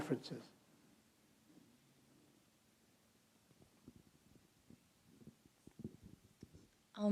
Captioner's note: silence